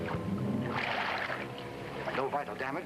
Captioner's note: water sloshing